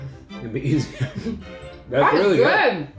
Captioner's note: chuckles